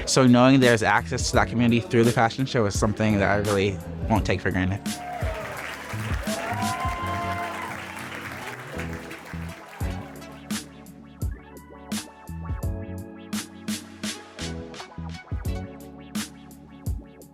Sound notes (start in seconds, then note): 4.9 audience cheering and applauding; 9.9 upbeat electronic music